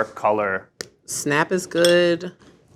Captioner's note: chocolate snaps